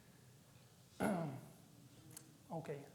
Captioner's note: clearing his throat